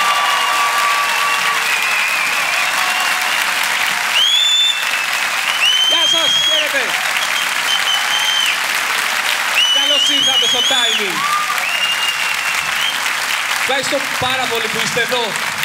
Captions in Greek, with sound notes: (σφυρίγματα) Γεια σας, χαίρεται! Καλώς ήρθατε στο Τάιμινγκ. Ευχαριστώ πάρα πολύ που είστε εδώ.